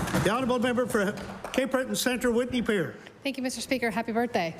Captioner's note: applause